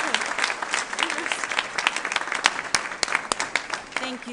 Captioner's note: applause